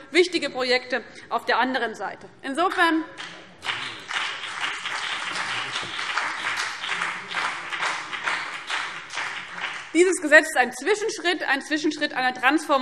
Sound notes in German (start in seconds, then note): 3.1 Beifall BÜNDNIS 90/DIE GRÜNEN